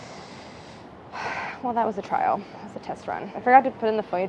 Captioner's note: sighs